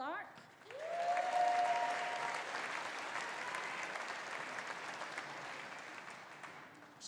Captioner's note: audience applauding; audience cheering